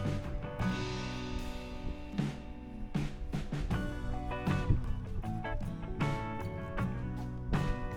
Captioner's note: wind Blowing